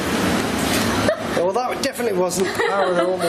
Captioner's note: laughing